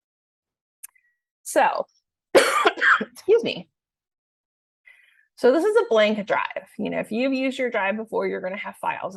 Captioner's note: coughs